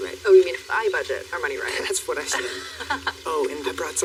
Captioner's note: Layla laughs